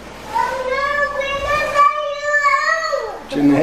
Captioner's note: babbles sadly